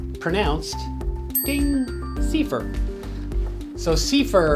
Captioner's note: chime sound